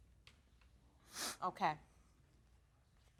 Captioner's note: sniffing